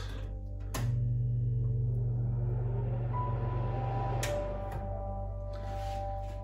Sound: fan turns on and runs

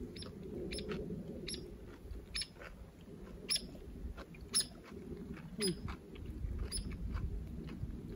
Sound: bird chirping

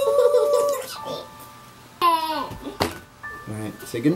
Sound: giggles

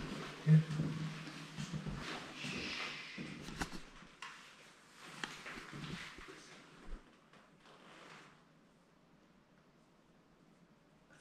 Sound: sigh

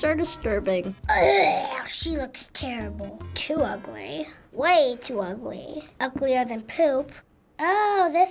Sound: gagging

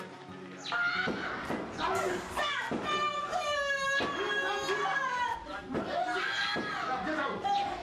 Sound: boy crying inside the room

